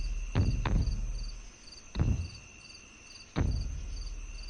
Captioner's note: heavy Footsteps